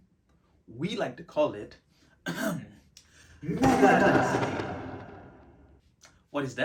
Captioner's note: clears throat